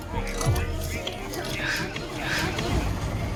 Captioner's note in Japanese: スペイン語